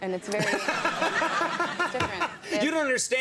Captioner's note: laughter